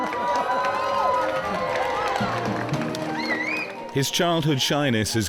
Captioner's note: crowd cheering